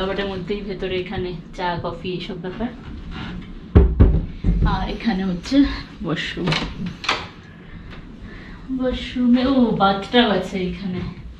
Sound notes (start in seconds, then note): 6.4 door opening